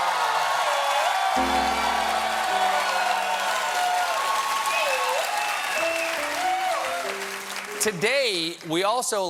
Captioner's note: cheers and applause; piano riff